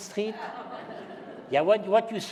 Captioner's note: laughter